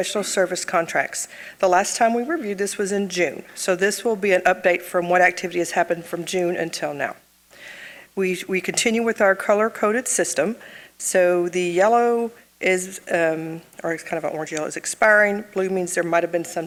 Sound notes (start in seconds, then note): none